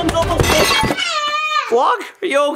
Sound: stammering

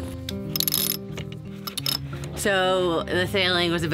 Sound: winch clicking

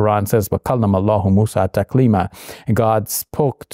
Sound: Shabir speaking Arabic

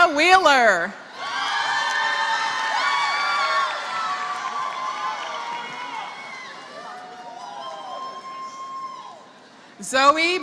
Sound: applause

